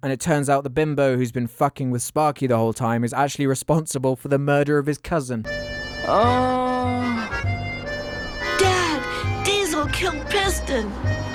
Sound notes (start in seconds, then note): 5.6 sigh